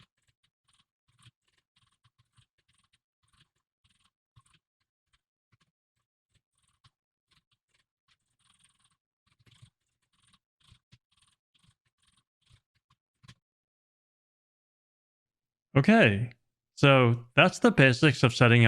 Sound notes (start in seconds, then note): 2.4 typing sounds